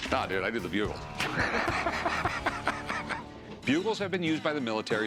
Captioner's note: laughs